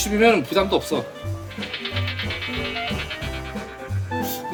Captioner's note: flapping